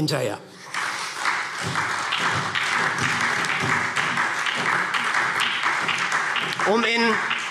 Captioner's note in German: Beifall SPD, Freie Demokraten und DIE LINKE